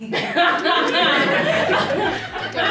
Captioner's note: everyone laughs